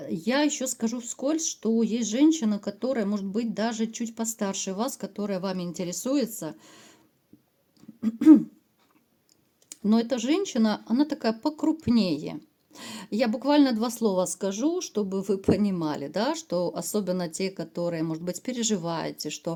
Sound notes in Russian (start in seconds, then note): 7.9 откашливается